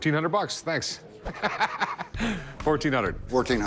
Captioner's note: laughs